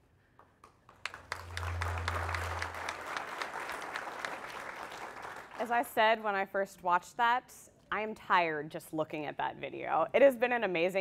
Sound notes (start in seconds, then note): 6.8 applause